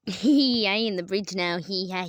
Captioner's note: weirdest giggle